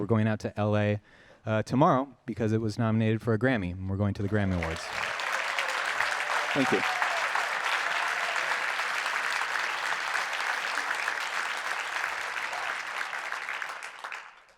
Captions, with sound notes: we're actually really excited, we're going out to LA tomorrow, because it was nominated for a Grammy, and we're going to the Grammy Awards. [Audience applause] Thank you. [Applause continues]